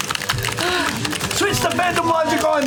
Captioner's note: frantic keyboard clicking